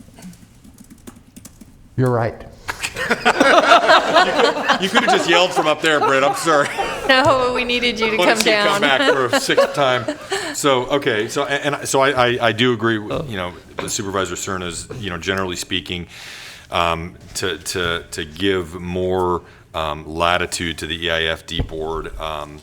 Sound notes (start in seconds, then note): 5.2 laughter